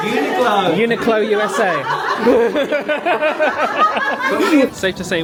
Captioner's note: laughing